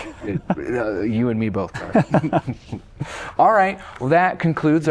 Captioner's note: laughter